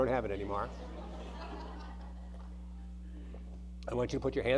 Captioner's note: audience laughing